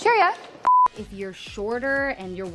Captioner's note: audio beeping